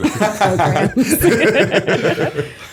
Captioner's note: laughter